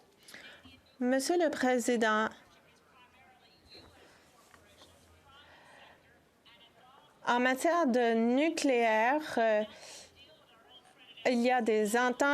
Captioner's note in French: voix de l'interprète